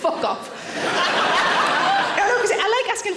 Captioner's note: audience laughing